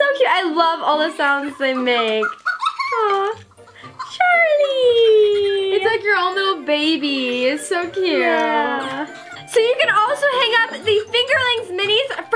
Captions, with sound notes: - It's so cute, I love all the sounds they make! (Fingerling laughs) Aw, Charlie! - It's like your own little baby, it's so cute. - So you can also hang up the Fingerlings minis